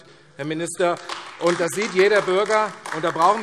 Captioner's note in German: Beifall AfD